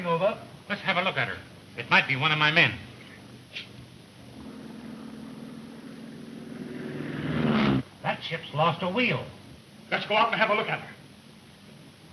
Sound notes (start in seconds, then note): 7.0 engine droning